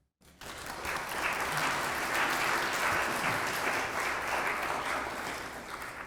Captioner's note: applause